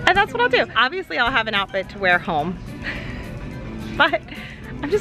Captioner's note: laughs